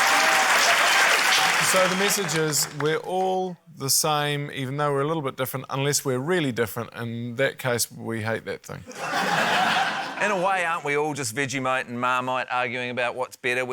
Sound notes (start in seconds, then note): 8.8 laughter